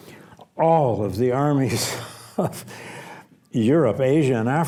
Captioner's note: laughs